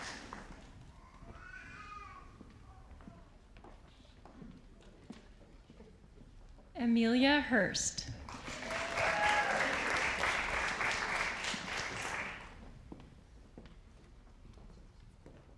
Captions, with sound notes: Amelia Hurst. (audience applauding)